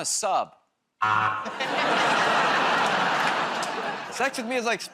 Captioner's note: laughter, buzzer